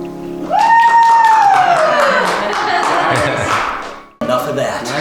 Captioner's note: clapping and cheering